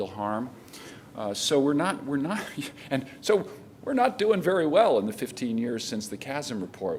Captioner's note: laughter